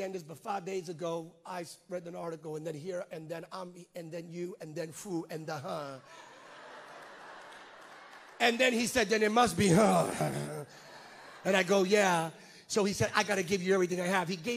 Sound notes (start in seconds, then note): 6.0 congregants laugh; 10.0 groans